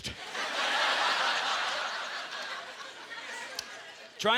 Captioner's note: audience laughter